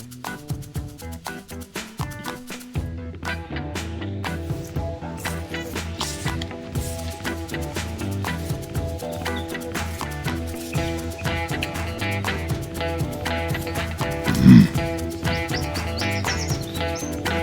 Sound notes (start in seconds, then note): 5.5 grass rustling; 10.4 uptempo rock music continues; 14.2 Bigfoot grunts